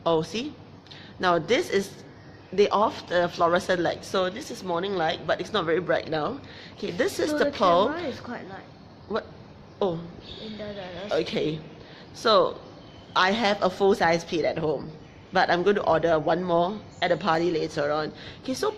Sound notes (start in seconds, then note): 10.6 speaking in foreign language